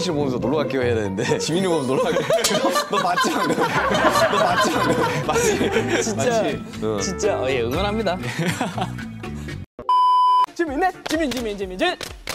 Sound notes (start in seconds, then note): 1.9 haha; 8.3 haha